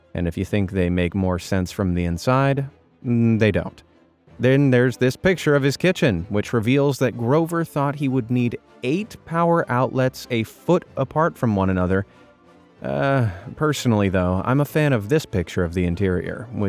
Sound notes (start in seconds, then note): 12.6 groans